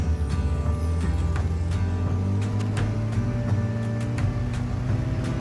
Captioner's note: engine revving